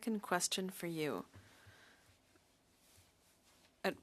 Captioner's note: speaking French